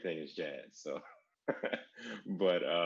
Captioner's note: laughs